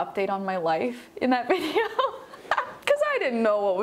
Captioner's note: laughs